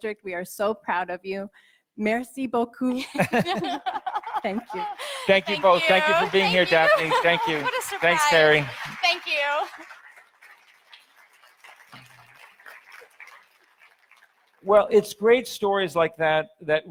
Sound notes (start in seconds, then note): 2.1 speaking in foreign language; 4.8 audience applauds; 11.5 audience applauds